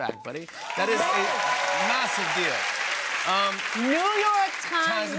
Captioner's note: cheers and applause